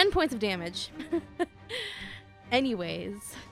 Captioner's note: laughter